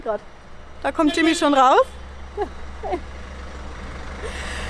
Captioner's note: honking